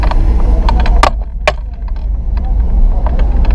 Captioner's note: backpack clinking on the door